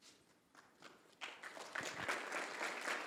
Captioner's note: applause